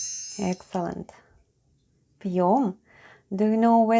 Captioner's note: chime sound